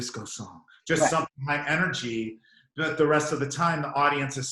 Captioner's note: suck